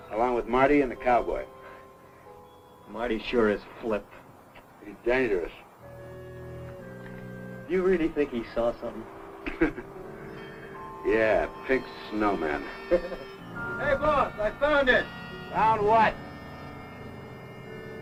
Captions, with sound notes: Along with Marty and the cowboy. - Marty sure has flipped. - He's dangerous. - Do you really think he saw something? (laughs) - Yeah, pink snowmen. (Byron laughs) - Hey, boss, I found it! - Found what?